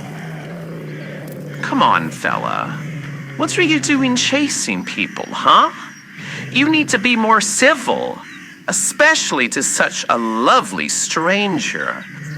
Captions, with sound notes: (Alastor walks closer to growling dog fx) C'mon, fella, what are you doing chasing people, huh? You need to be more civil, especially to such a lovely stranger.